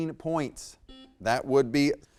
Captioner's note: buzzer beeps